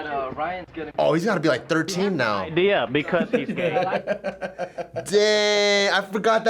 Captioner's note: both chuckle